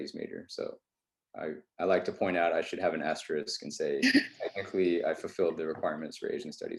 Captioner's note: laughs